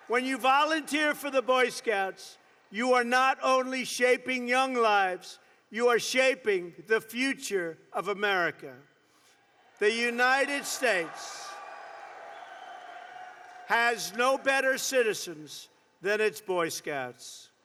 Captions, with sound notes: When you volunteer for the Boy Scouts, you are not only shaping young lives, you are shaping the future of America. (Applause.) The United States has no better citizens than its Boy Scouts.